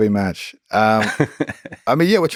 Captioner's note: Lex laughs